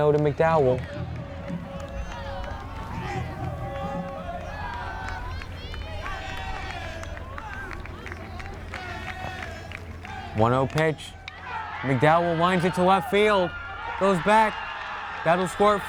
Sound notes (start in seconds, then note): 2.7 crowd; 6.2 crowd chanting